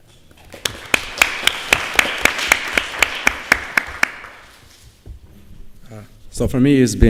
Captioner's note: applause